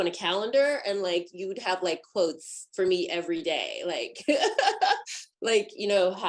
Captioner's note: laughs